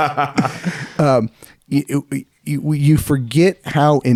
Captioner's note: laughing